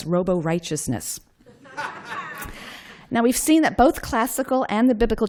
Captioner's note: laughter